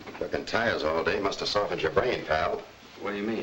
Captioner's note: none